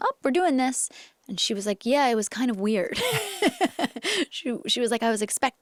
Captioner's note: laughs